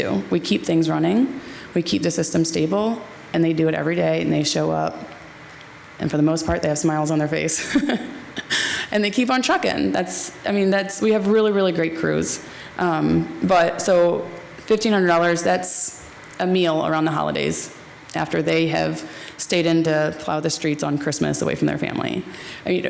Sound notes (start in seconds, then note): 7.6 laughs